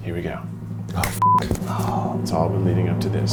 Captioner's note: drumroll; beep